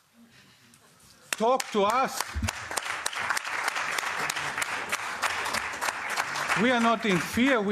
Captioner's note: applause